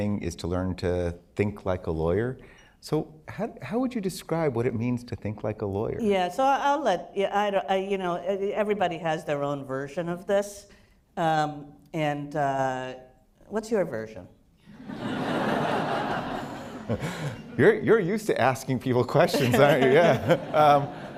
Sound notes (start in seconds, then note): 14.7 laughter; 19.2 laughter